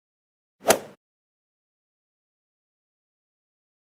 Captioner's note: golf swing sound effect